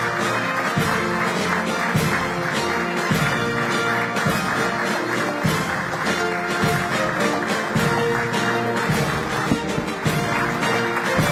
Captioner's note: applause